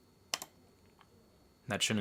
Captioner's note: mouse clicking